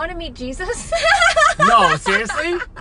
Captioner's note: laughs